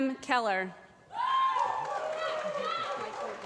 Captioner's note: applause